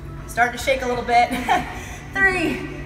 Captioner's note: laughs